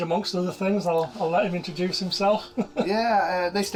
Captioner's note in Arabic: يضحك